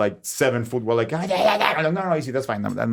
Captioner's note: Jaime growling